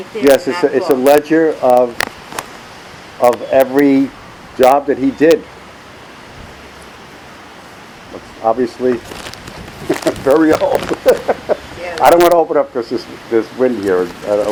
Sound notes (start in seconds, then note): 10.6 laughs